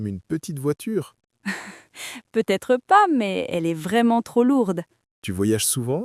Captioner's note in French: rire